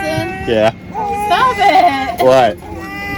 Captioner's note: laughing